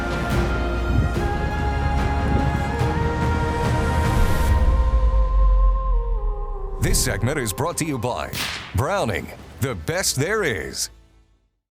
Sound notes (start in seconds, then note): 8.3 gun fires